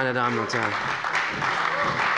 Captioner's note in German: Beifall bei der CDU und dem BÜNDNIS 90/DIE GRÜNEN